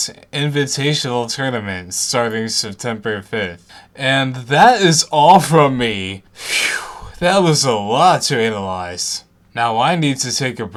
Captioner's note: phew